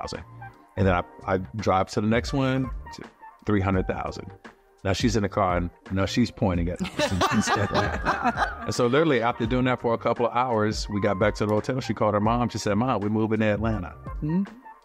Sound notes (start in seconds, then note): 6.8 laughter